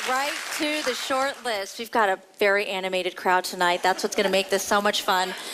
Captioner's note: applause